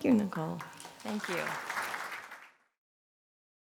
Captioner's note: applause